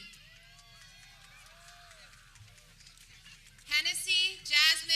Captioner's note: people cheering